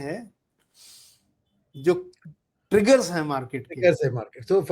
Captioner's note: nasal sound